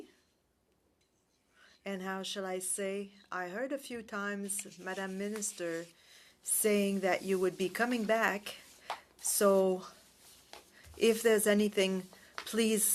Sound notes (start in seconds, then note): 3.7 speaking french